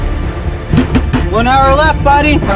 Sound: suspenseful music; door bangs

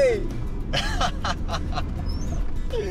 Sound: laughs

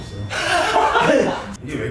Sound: laughing

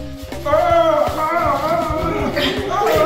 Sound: Santa groaning; children grunting

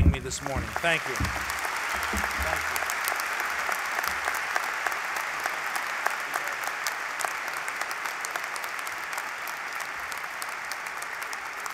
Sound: applause

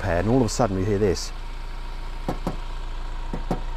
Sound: taps on door of the car

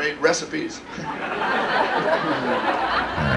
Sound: laughter

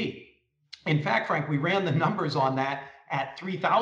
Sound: laughs

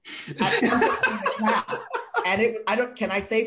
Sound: men laugh

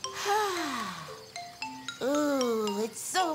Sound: upbeat music; Tobee sighing

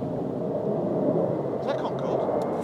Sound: jet roars

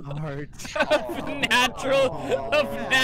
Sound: laughing

